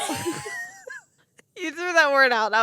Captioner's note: laughing